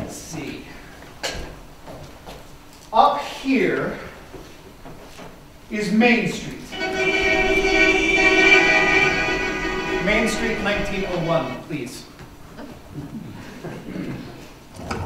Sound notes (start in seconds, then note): 6.7 cars horns